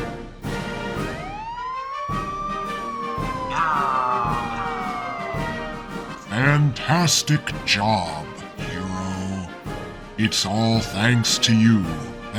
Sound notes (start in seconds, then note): 1.3 police sirens